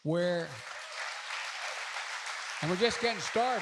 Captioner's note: applause